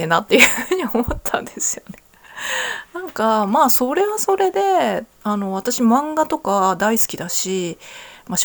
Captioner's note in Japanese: 笑い